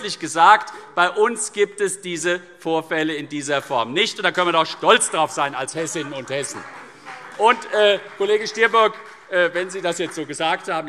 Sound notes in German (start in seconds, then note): 6.6 Beifall CDU und vereinzelt BÜNDNIS 90/DIE GRÜNEN